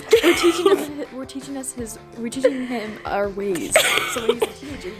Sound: laughs

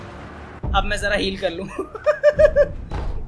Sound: weird laugh

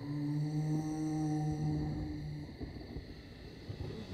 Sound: ghostly moaning

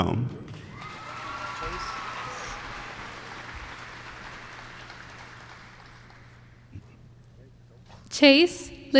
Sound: applause

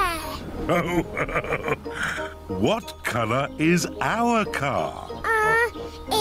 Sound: laughs

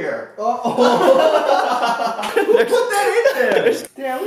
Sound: both laughing

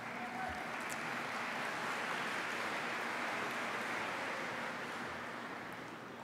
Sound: applause

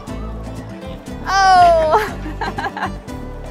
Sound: laughter

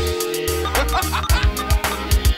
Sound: phone ringing; man laughing

